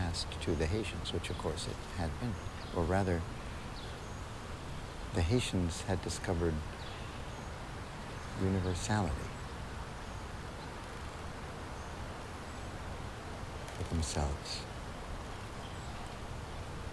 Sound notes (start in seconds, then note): none